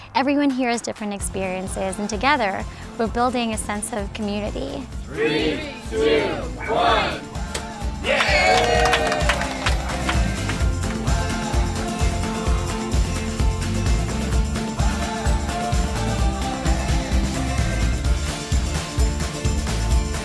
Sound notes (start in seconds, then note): 8.0 cheers and applause; 9.4 upbeat music